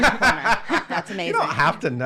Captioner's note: laughing